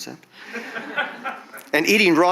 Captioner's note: audience chuckles